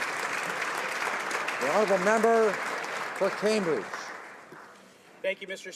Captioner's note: some Applause